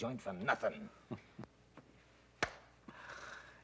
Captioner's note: Mike laughs; hand clap